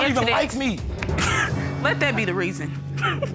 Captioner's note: chuckling